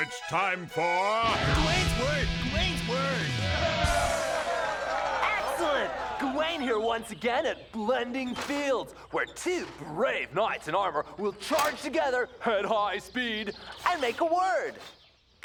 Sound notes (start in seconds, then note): 2.5 cheering